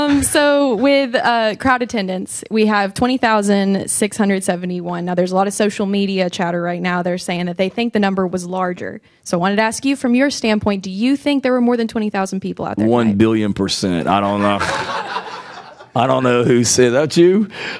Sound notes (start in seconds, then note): 14.1 people laughing